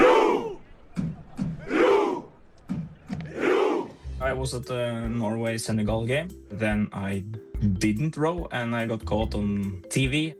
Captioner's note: cheering